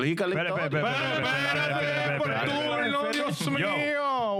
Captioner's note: speaking In Spanish